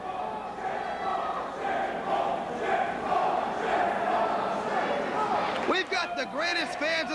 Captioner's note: crowd cheering